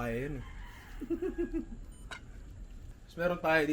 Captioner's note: laughs